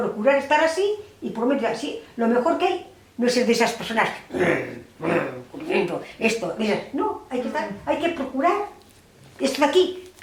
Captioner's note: grrr